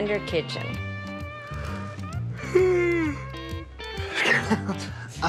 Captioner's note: yawning